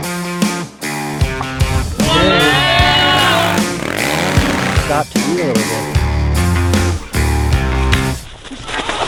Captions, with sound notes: (people cheer) - Stopped to eat a little bit.